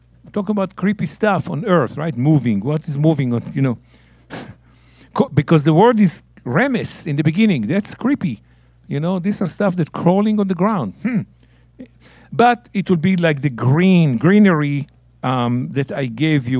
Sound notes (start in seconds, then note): 5.9 speaking in Hebrew